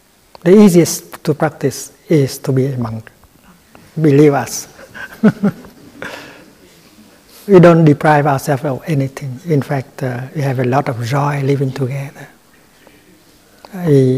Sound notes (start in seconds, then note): 4.8 laughter